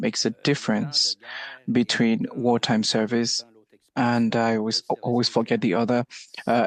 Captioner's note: speaking French